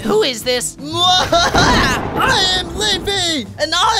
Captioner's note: thunder cracks